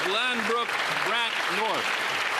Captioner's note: some Applause